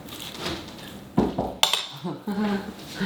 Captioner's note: fork clinks; knocks; laughs